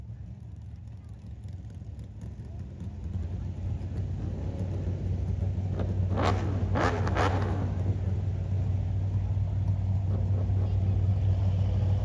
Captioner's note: car engine revving